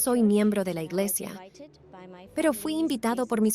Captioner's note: Hablando idioma extranjero